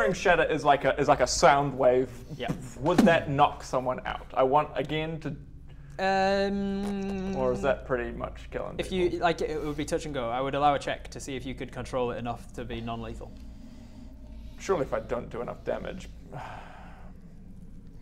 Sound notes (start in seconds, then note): 16.0 sigh